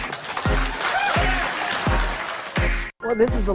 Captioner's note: people cheering and applauding